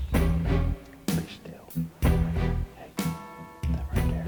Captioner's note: whispering